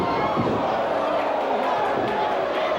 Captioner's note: boos